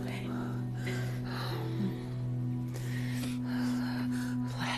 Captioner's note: breathing heavily